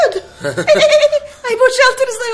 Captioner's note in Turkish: gülme sesleri̇